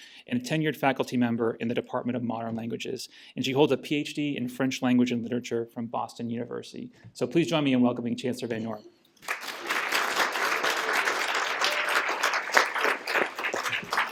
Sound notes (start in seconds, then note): 9.2 applause